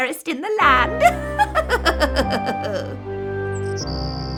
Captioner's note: evil laughter